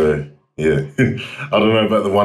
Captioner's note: laughs